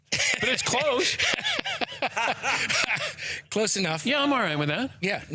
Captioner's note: laughing